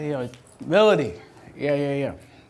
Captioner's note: voiceover